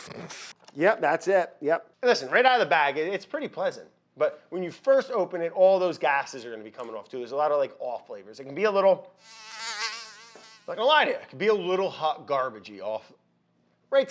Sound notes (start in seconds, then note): 0.1 snorts; 9.2 fly buzzes